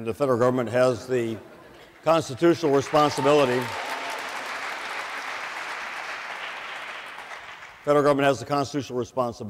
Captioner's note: waits for applause to end